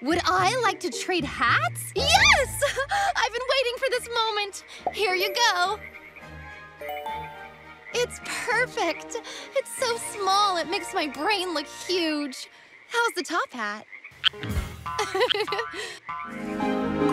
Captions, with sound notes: Would I like to trade hats? Yes! I've been waiting for this moment. Here you go. It's perfect. It's so small, it makes my brain look huge. How's the top hat? [croaking] [Lenny chuckles]